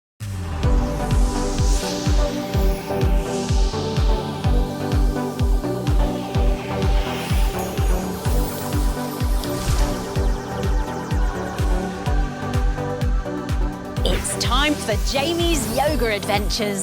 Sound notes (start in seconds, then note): 0.0 rhythmic music; 3.1 magical whooshes